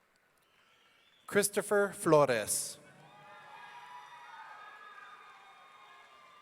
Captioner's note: audience cheering